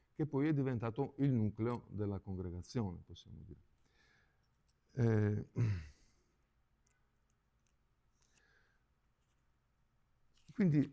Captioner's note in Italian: schiarire la voce